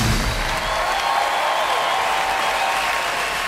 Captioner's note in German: Jubel und Applaus